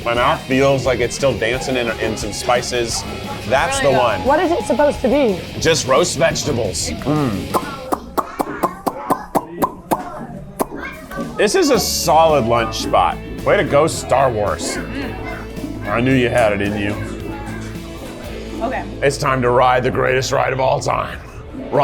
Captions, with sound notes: My mouth feels like it's still dancing in some spices. - Really good. - That's the one. - What is it supposed to be? - Just roast vegetables. (mouth pops) This is a solid lunch spot. Way to go, Star Wars. I knew you had it in you. - Okay. - It's time to ride the greatest ride of all time.